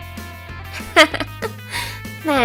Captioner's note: Sap's evil chuckle